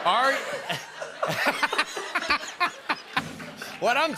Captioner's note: laughter